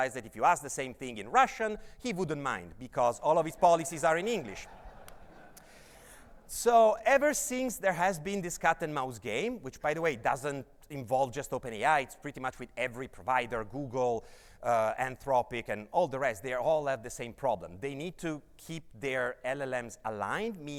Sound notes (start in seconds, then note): 3.3 audience laughs